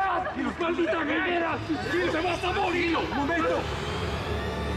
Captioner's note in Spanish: Gritos y exclamaciones